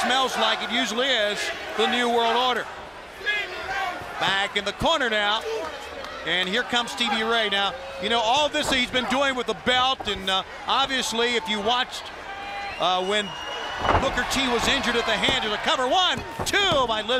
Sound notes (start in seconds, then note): 3.8 crowd chatter